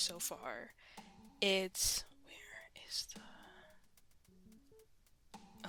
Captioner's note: whispers; whispering